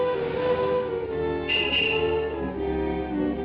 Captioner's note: horn honking